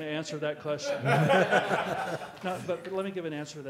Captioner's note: laughing